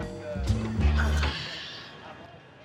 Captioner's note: sighing